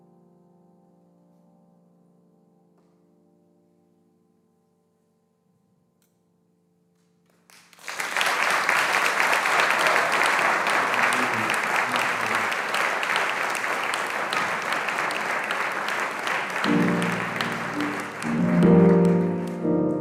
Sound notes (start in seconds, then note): 7.7 audience applauding; 16.5 gentle piano music